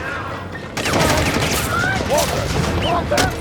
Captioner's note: gunshots whistle